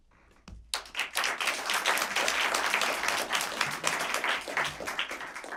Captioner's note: applause